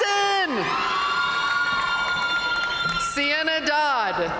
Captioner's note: audience cheering and applauding